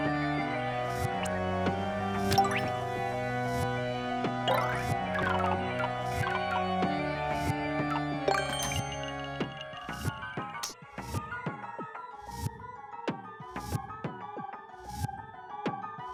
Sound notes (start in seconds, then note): 0.1 organ music; 4.4 silly video game sounds; 8.3 coin clink; 10.3 dramatic music